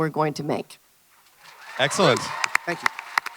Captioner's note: audience cheers and applauds